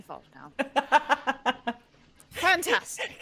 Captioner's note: laughing